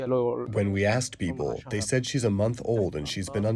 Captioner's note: through translator